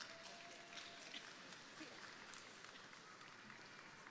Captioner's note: crowd applauding